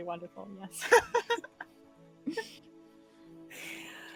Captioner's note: all laughing